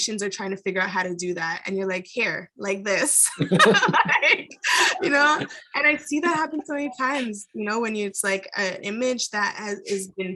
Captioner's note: laughs